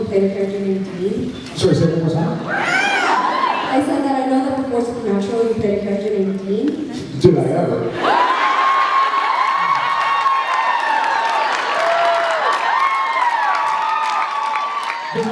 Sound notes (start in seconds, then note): 2.4 cheers; 8.0 cheers, applauds